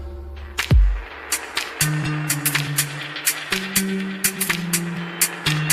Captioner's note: applause